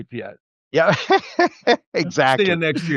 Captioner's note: laughter